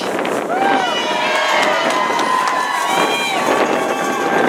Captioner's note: cheering